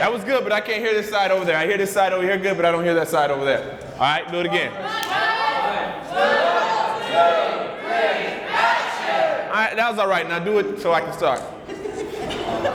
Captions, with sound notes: - That was good, but I can't hear this side over there. I hear this side over here good, but I don't hear that side over there. Alright, do it again. - [Crowd] One, two, three, action - Alright, that was alright. Now do it so I can start.